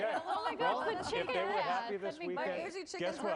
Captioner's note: laughter